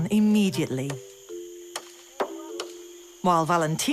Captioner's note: coconut hitting wood